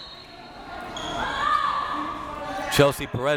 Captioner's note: whistle tweeting